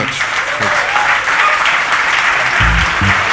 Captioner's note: audience applauding; upbeat music